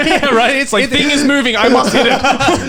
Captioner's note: laughing